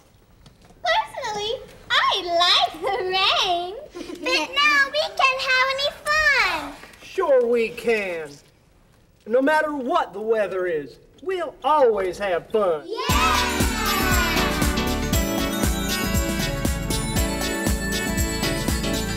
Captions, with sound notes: - Personally, I like the rain. - But now we can't have any fun! - Sure we can! No matter what the weather is, we'll always have fun. (cheering)